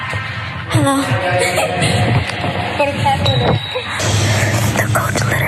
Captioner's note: laugh